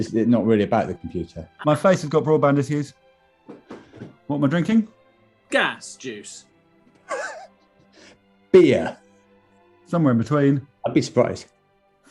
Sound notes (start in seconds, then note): 7.5 sniggering